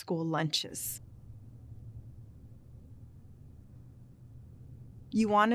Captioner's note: silence